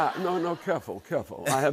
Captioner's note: laughter